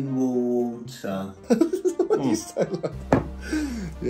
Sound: laughing

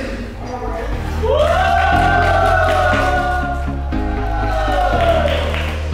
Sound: everyone cheer up and claping

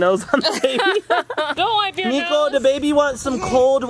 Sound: laughs

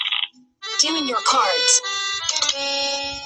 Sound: voiceover

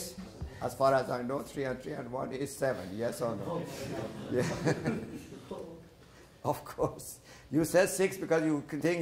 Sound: laughter

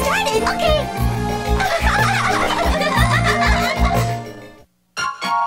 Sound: the Triplets giggle

